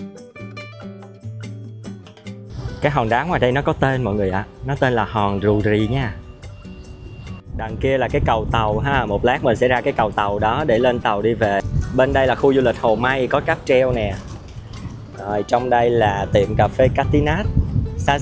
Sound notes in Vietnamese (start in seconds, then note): 2.5 khịt mũi